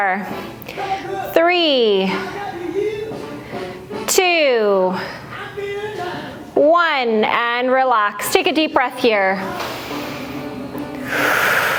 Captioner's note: breath